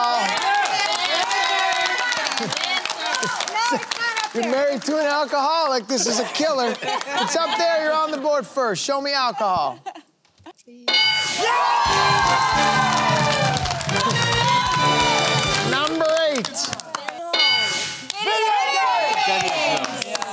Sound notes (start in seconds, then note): 2.6 laughter; 11.2 cheering